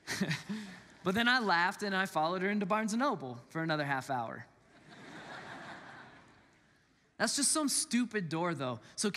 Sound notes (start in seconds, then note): 0.1 laughs; 4.7 congregants laugh